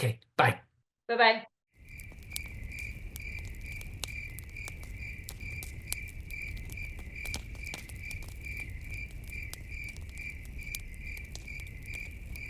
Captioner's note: crickets